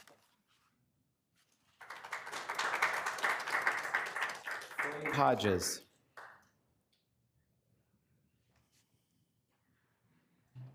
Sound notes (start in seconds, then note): 1.6 attendees clapping